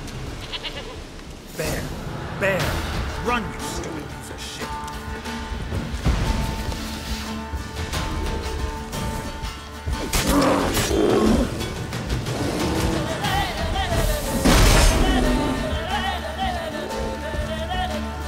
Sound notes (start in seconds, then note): 5.8 loud thump; 10.0 growl; 14.4 Quen shield explodes